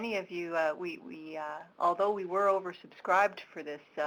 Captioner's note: stammering